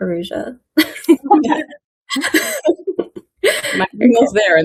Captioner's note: people laughing